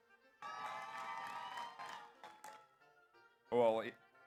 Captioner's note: audience cheers; audience applauds